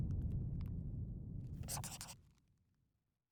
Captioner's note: scribbling